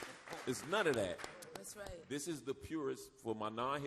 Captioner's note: audience applauds